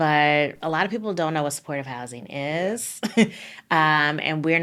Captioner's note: laughing